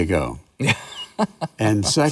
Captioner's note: laughs